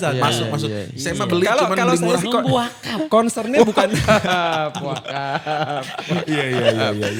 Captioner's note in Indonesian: tertawa